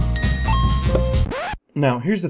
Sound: music and dings; record stop sound

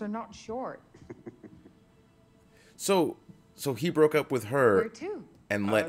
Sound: laugh

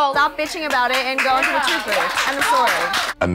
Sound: group clapping

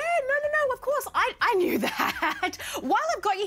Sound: laughs nervously

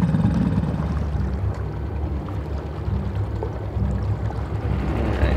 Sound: water swishing

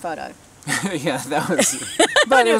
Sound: laughing

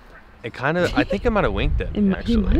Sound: giggles

